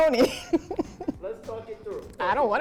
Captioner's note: chuckles